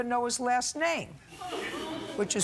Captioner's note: laughter